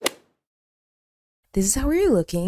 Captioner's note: golf hit sound effect